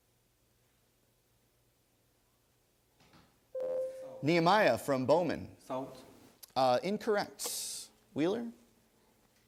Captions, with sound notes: (ding) Nehemia from Bowman. >> Salt? >> Incorrect. Wheeler?